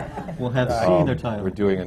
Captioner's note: laughter